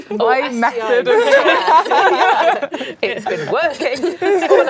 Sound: laughing

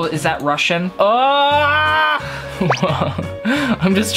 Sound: screams

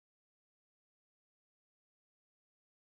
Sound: none

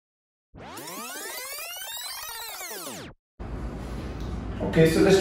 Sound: vinyl rewinding sound

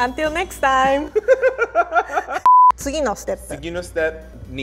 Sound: laughs

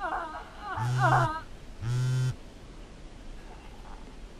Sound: phone vibrating

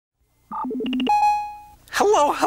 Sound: beeping

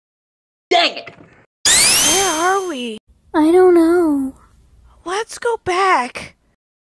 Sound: spin dash sound hehe

